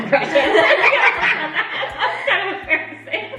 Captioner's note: all laugh